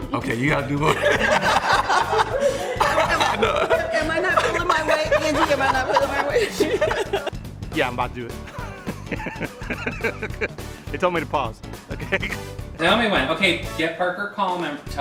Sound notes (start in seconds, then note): 0.0 laughing; 8.4 chuckling